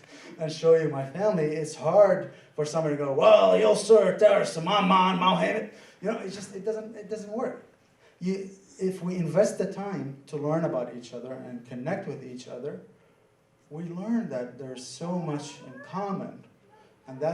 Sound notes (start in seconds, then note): 3.3 mimicking gruff Southern accent